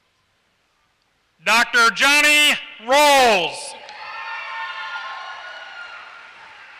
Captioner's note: applause